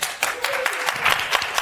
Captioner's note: applause